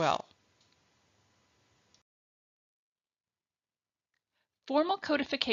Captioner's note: silence